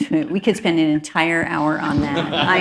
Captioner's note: laughter